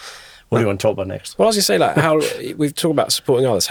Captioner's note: chuckling